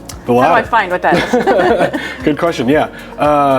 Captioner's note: laugh